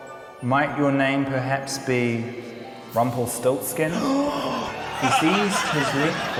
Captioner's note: gasps